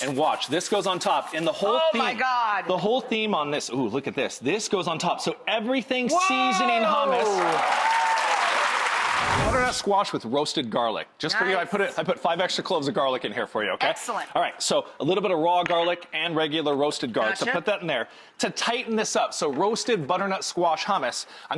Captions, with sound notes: and watch, this goes on top and the whole theme-- Oh my god. The whole theme on this, ooh look at this, this goes on top, so Everything Seasoning hummus. Whoa! (audience cheers) (transition slide whooshing) Butternut squash with roasted garlic. Nice. I put five extra cloves of garlic in here for you. Excellent. All right, so a little bit of raw garlic and regular roasted garlic, so put that in there. To tighten this up, so roasted butternut squash hummus,